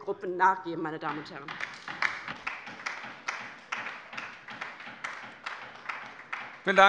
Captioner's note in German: Beifall bei der LINKEN